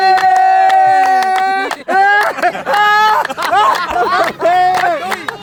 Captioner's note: clapping and chanting